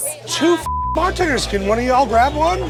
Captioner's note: beep